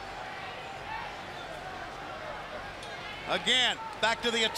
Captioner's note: crowd chatter